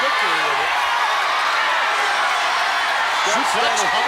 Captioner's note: crowd cheers